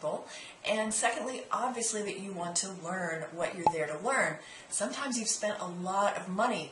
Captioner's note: pop